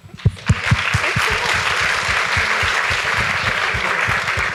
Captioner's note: audience applauds